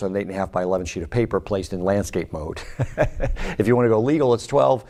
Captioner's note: laughs